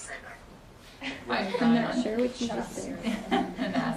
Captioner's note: students chuckle